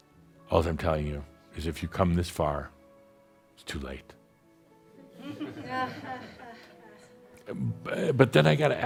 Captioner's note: a few chuckles